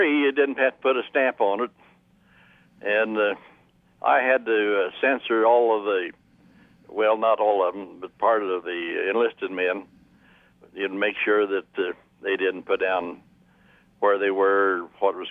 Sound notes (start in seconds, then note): none